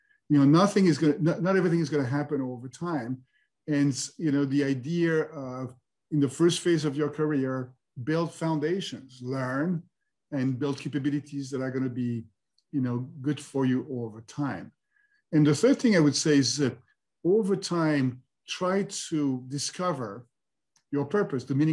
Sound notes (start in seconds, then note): none